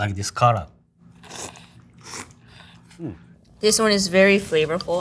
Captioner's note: chefs slurping